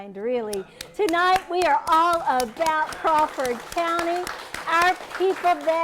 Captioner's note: applause